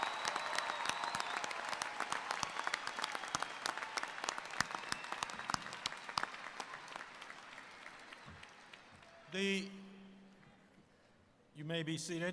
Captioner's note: applause